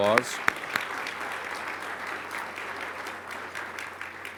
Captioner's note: applause